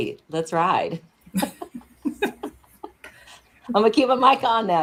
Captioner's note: laughter